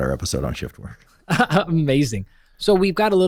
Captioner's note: laughs